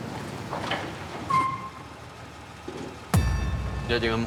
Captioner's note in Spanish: ruido del motor